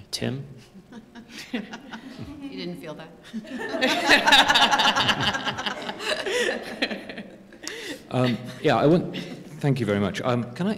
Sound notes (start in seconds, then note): 1.4 laughter; 5.8 laughter